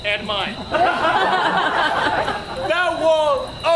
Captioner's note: audience laughs